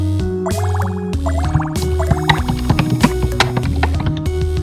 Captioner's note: keyboard typing